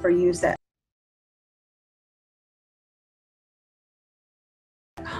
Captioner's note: silence